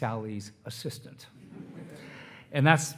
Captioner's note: attendees laughing